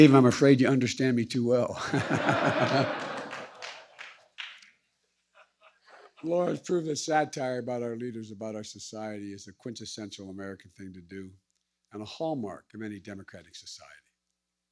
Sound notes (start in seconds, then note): 1.7 laughter